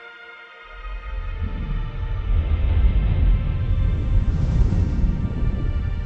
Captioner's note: rocket engine rumbling